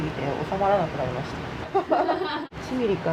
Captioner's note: laughs